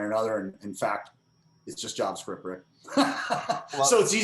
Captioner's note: laughs